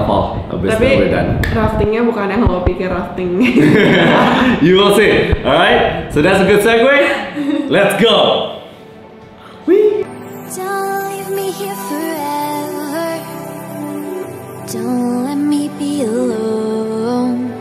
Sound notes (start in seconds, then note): 3.5 laugh